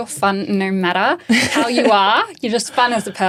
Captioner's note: laughing